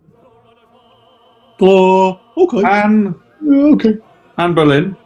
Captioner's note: dopey voices